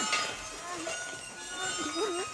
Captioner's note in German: Wimmern